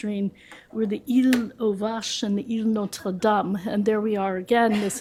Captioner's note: french